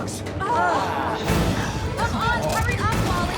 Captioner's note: group groans